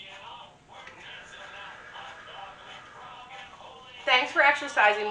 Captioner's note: breathing in; breathing out